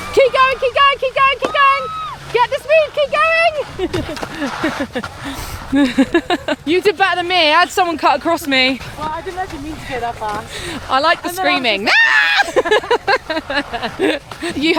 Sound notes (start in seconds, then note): 1.2 woman screams; 2.6 laughs; 11.8 screams; 11.8 both laugh